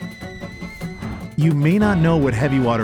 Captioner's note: kettle whistling